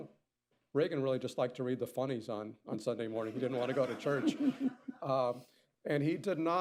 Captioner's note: laughter